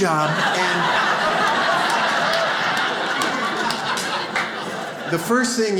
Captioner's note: audience laughs